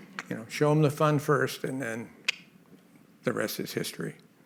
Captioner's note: mouth clicks